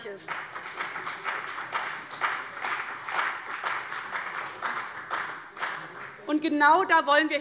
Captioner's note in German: Beifall bei dem BÜNDNIS 90/DIE GRÜNEN und der CDU